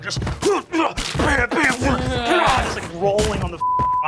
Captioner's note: thumping and smashing